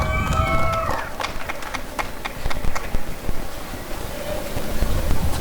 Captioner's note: applause and cheering